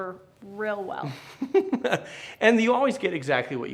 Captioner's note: chuckles